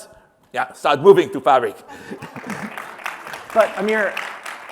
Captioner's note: applause